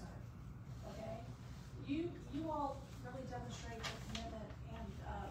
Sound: stammers

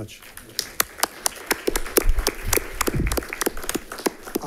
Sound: audience applauding

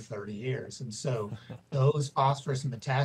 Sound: laughing

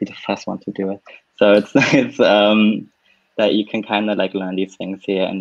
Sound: laughs

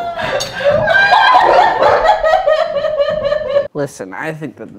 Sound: still laughing

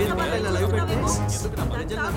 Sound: calling out

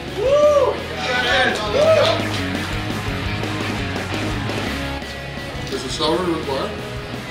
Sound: loud cheering; rock music

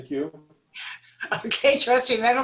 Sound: laughter

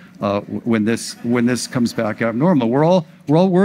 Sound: audience laughs

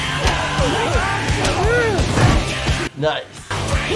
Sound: intense rock music; loud punching

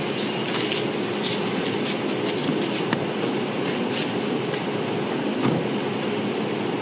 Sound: footsteps

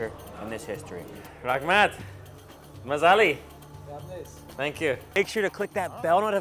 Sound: in foreign language

